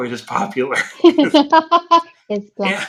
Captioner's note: laughing